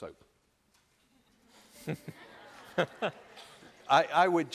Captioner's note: laughter